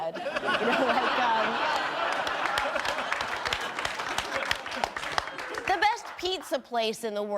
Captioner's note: audience laughing and clapping